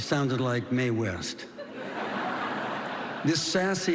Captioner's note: laughter